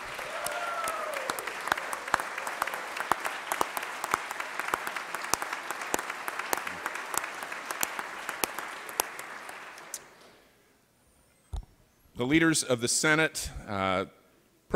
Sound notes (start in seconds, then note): 1.6 cheering and applause